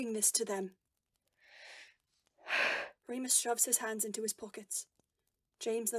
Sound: Remus lets out a shaky breath

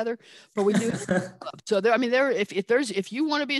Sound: laughing

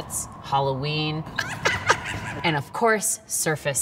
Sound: scary laughter

